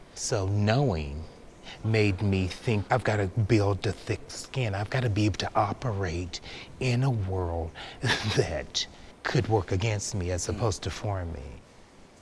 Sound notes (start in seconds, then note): 7.8 laughs